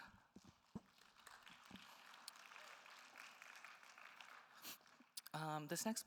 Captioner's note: attendees applauding